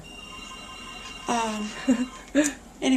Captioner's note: phone ringing